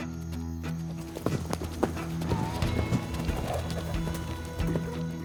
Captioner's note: suspense music; hoofbeats; suspense music